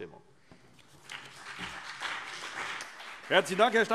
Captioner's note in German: Beifall CDU und BÜNDNIS 90/DIE GRÜNEN